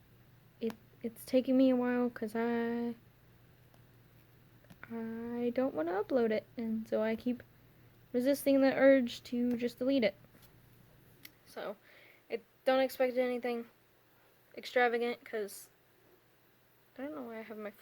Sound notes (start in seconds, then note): none